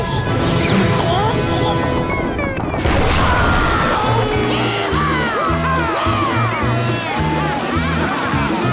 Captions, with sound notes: [screaming] - Yee-haw! Yeah! - Whoo-ha!